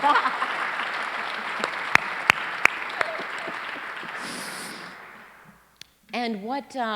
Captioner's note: applause